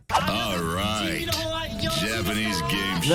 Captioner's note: host speaking Japanese